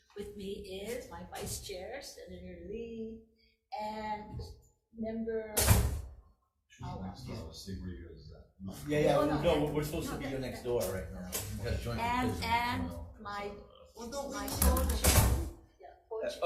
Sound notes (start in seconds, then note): 5.6 door slams; 14.6 door slams